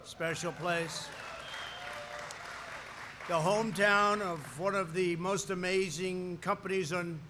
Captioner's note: applause